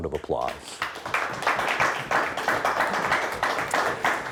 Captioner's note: applauding